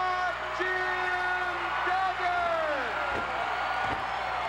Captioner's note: crowd cheers